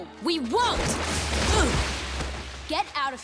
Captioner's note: grunting